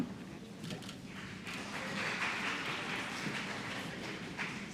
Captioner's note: applause